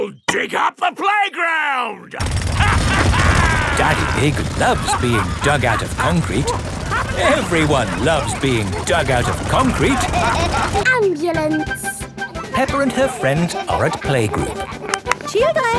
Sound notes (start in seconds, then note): 2.5 drilling and laughing; 7.3 all laughing